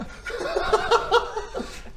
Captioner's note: laughs